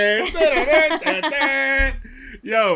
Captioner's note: laughter